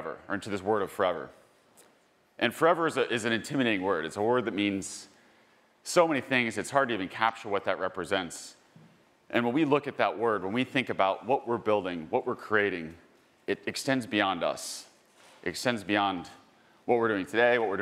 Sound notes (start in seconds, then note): none